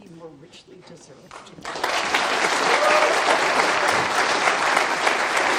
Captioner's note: applause